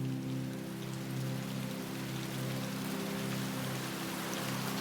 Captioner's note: rain splattering